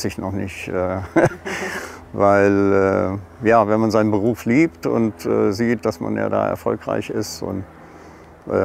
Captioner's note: laughs